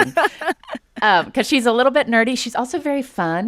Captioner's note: laughter